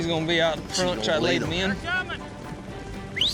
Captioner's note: whistles